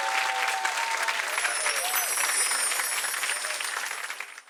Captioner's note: audience cheering and clapping; bells chiming